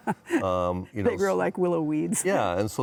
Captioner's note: laughing